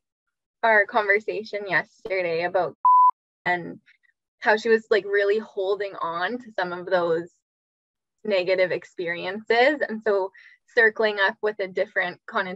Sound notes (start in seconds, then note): 2.8 beep